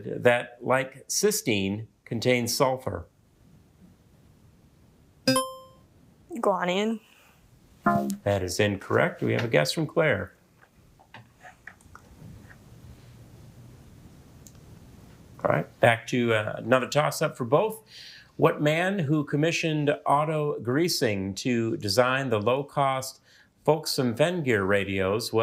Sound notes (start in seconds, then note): 5.3 buzzer chimes; 7.8 womp chimes